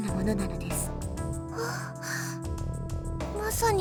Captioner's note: gasp